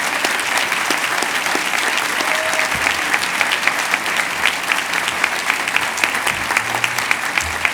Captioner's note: cheers and applause